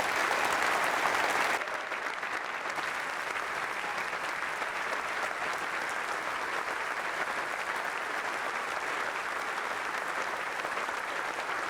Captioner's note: applause